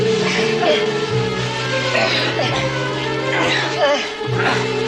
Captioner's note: both Grunting